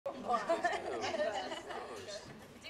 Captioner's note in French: rigolant